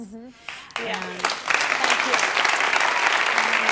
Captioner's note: applause